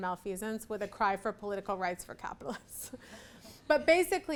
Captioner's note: laughs